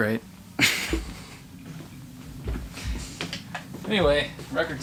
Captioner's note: laughing